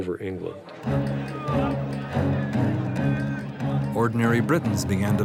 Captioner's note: men clamoring